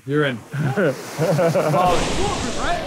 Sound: Sidemen laughs

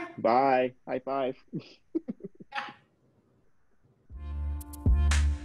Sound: people chuckling; relaxing upbeat music

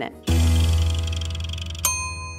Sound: meter ticking; meter dings

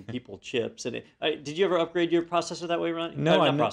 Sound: laugh

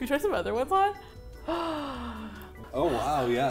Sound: gasps

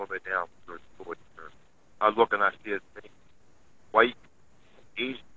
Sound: sound cuts out

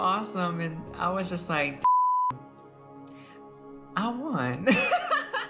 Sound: beep; laughs

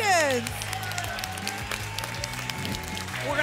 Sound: applause and cheering

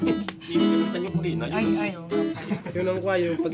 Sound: laughter

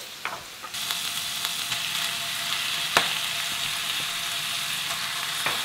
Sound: pork and kimchi sizzling

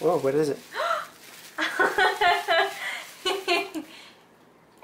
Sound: laughs

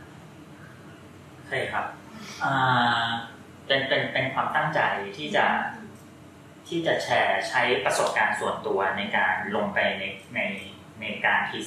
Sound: answering in Thai

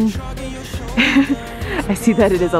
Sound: chuckles

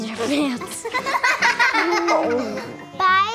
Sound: giggling

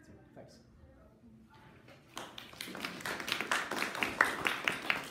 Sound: audience applauding

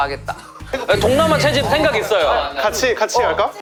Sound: sudden burst

